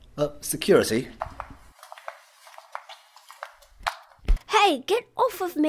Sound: footsteps

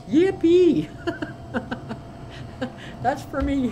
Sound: chuckling

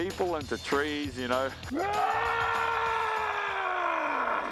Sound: roaring

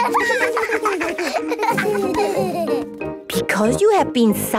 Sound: laughter

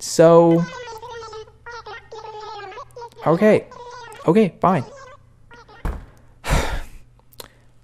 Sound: "my guy" is mad in Animalese

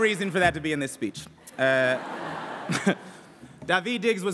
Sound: laughs

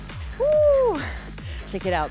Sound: exclaiming

